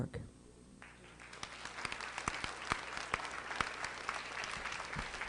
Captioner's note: applause